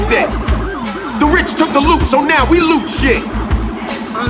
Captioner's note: audience chanting